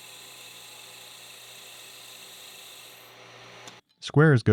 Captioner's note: machine whirring